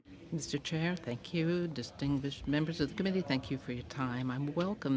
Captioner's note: speaking french